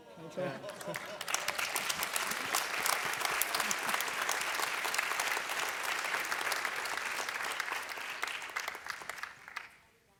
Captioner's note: applause